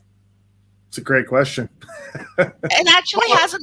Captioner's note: laughs